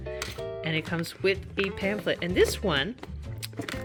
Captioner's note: none